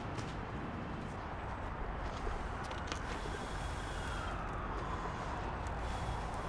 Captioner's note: police siren